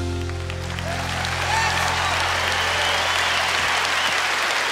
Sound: cheers and applause

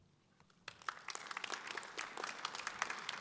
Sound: audience applause

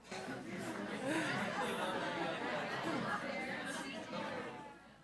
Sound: crowd chattering

